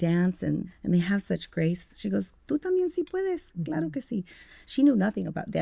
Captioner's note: speaking Spanish